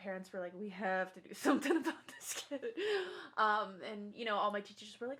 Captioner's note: laughs